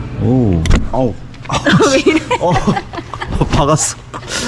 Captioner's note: giggling